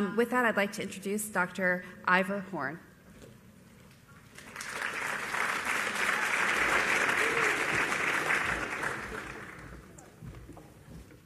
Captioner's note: applause